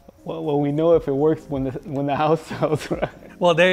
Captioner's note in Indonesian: tertawa